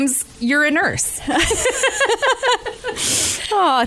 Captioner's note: both laugh